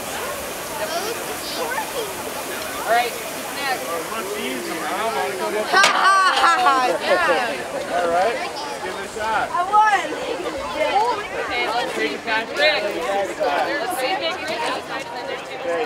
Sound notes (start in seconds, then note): 5.6 laughs; 10.3 crowd chattering